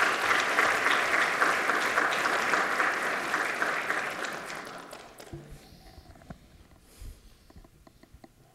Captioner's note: applause